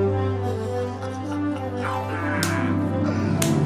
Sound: laughs

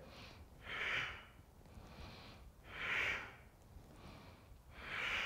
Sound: exhaling breaths

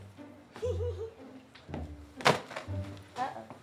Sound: stripper giggles

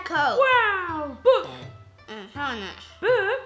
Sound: burps

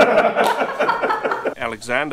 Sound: laughs

